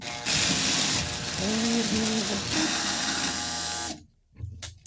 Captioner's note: grinder whirring